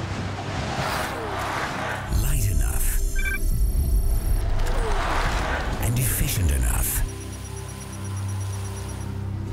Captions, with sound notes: light enough [Beeping] and efficient enough,